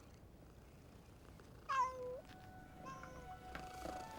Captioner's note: meows